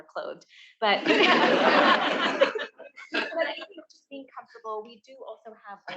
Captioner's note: attendees laughing